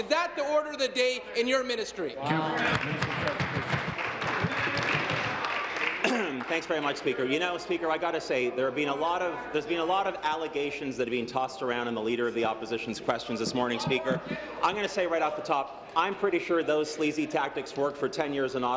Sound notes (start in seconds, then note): 6.5 applause